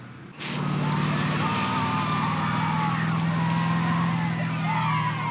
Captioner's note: boys cheering and yelling